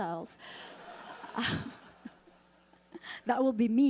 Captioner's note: audience laughing